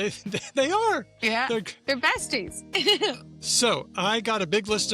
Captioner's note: laughs